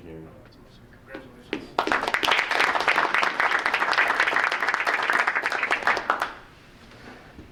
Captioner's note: group applauding